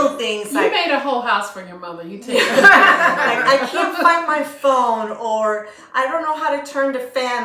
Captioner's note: laughter